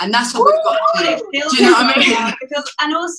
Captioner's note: cheers